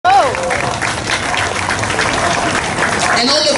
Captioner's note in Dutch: applaus